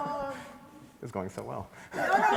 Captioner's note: everybody laughs; laughs